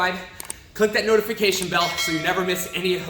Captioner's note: hand clicks; bell clangs